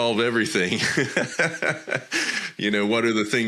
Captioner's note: laughing